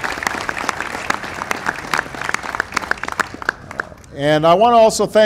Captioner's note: applause